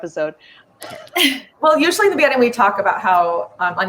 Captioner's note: laughs